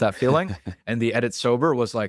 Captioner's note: laughs